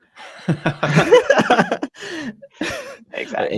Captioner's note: everyone laughing